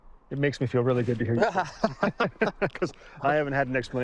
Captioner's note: both laughing